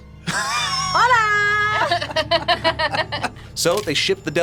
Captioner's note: both laugh